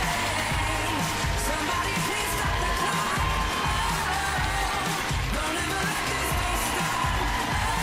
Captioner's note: cheers and applause